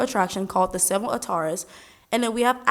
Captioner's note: speaks in foreign language